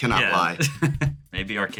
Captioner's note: laugh